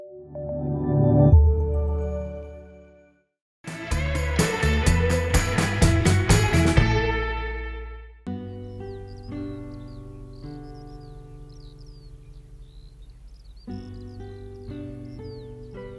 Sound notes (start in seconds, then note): 0.0 soothing music; 3.7 upbeat music; 8.4 birds chirp; 8.5 soothing music